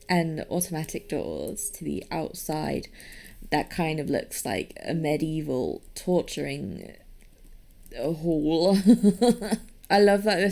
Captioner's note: laughs